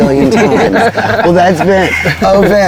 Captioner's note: all laughing